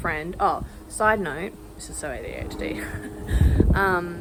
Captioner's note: laughs